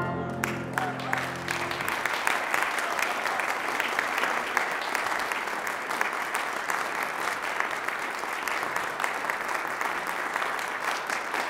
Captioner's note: applause